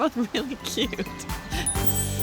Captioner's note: giggles